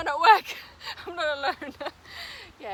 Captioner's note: risos